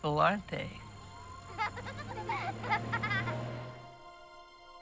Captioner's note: giggling